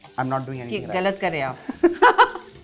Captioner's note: chuckles